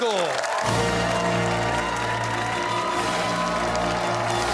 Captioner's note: cheers and applause